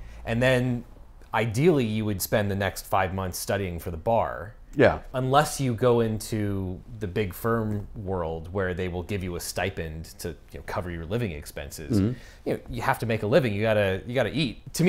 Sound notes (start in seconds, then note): none